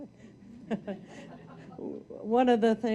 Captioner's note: audience laughing